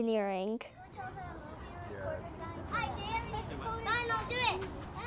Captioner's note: children chattering